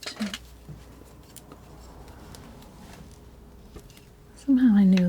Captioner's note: scraping